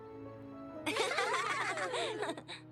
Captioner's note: giggles